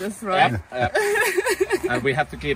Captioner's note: laughing